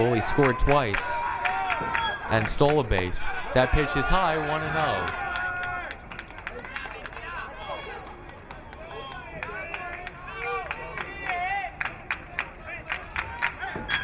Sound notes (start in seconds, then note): 5.7 crowd cheering; 11.1 crowd clapping